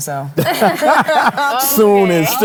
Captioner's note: laugh